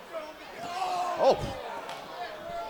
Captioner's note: Rollins screams